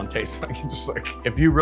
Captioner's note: laughs